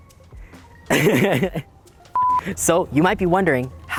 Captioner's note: laughs